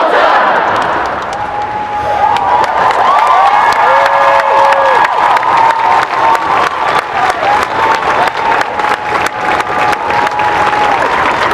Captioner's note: applause